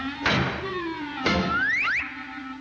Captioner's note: cloud smacking; Woody whooshing; cloud smacking